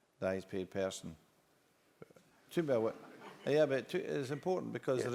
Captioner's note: laugh